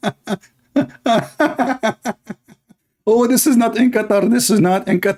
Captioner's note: Ketawa